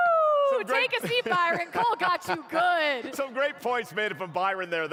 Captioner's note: laughter